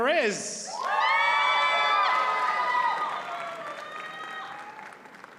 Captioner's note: audience cheers and applauds